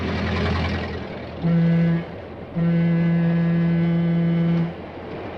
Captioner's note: train whistle blows